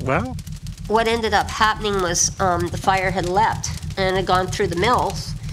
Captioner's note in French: crépitement de flammes